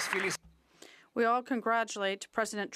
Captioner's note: some Applause